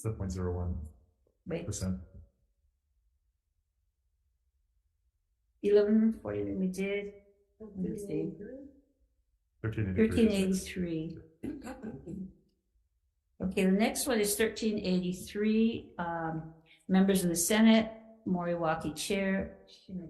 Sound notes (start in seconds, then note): 11.7 members speak faintly